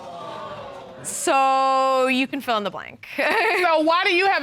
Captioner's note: chuckles